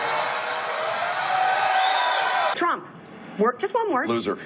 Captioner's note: cheering